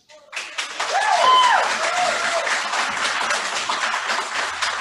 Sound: boos

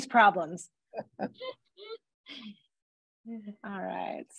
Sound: chuckles

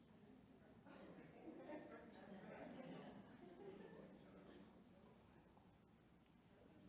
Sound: board members chattering

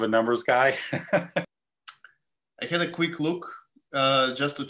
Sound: laugh

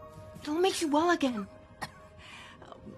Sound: coughs

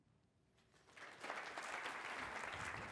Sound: applause

